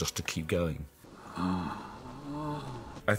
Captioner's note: moaning